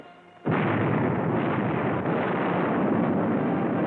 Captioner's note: cannons firing